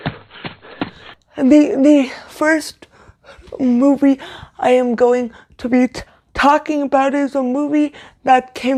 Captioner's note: sound of footsteps running